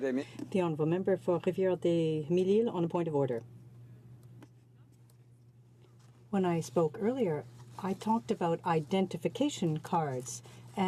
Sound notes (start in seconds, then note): 5.5 speaking French